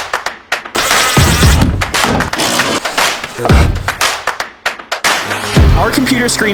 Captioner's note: upbeat music; power tools rev